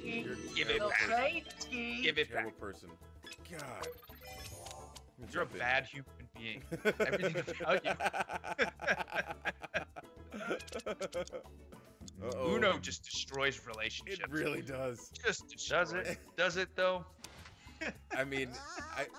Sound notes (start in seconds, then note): 10.0 laugh